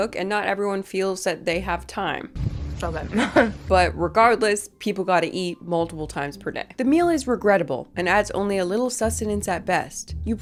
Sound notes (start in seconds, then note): 3.1 chuckles